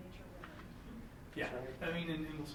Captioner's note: mutters